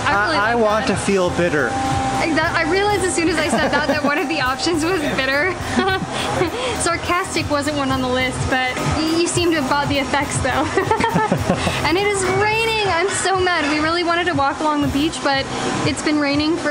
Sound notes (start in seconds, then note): 5.8 laughs; 10.6 laughter